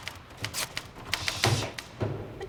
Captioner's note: ribbon tears